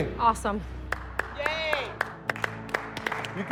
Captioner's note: applause